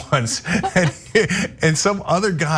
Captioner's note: laugh